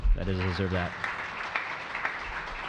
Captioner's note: applause